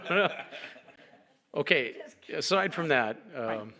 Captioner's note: laughter